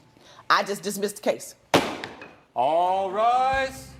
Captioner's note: gavel bangs